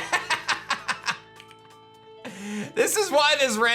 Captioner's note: laughs